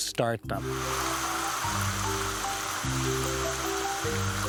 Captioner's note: water spraying